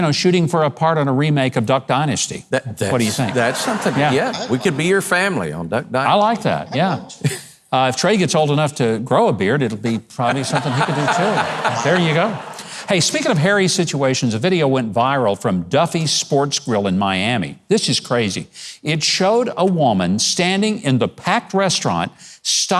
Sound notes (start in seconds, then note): 10.2 audience laughs; 10.2 laughs